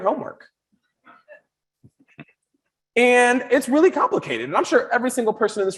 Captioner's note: audience chuckles